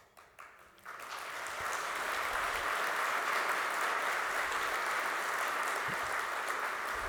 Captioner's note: applause